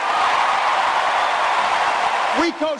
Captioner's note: applause